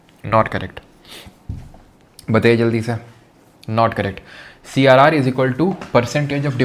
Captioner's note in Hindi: नाक से की जाने वाली आवाज़